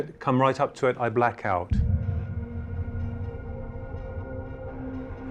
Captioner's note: object thuds